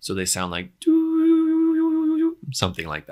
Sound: man humming

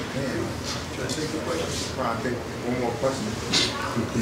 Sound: audience talks

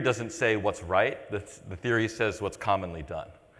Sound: none

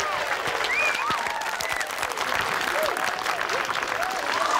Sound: enthusiatic applause

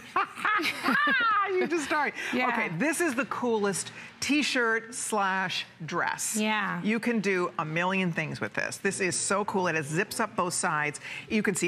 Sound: laughter

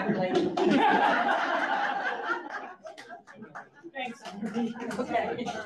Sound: audience laughs

